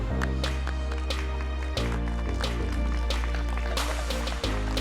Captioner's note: applause